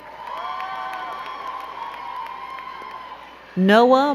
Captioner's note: crowd cheering and clapping